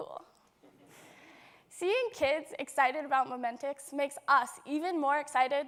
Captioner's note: laughter